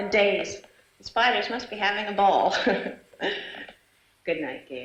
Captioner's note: chuckling